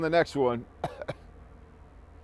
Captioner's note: coughing